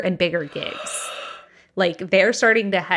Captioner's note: gasps